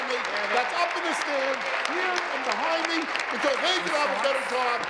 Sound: applause

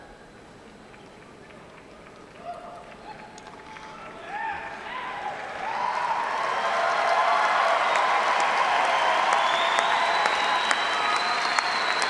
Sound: applause

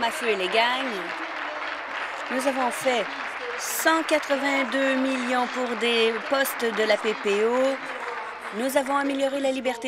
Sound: applause

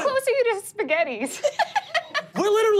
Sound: laughing

